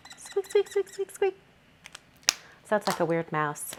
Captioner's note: pen squeaks